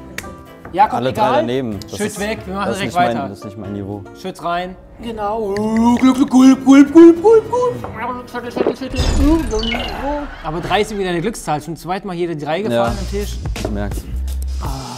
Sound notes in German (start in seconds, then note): 5.5 imitiert Trinkgeräusche; 8.2 Schluckgeräusche, Ächzen